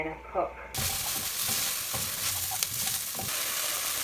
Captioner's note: pan sizzling